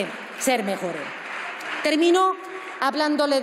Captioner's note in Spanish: Aplausos